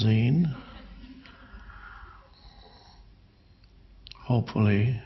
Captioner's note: audience laughing